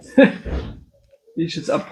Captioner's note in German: gelächter